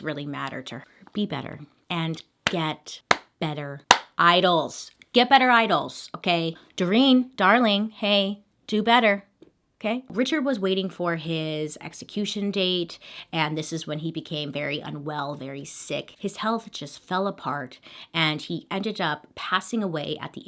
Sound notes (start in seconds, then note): 3.9 clapping